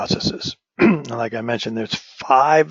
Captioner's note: cough